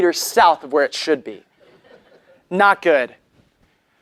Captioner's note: laugh